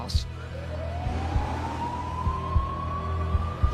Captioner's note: siren wailing